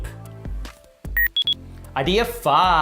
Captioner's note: electronic beep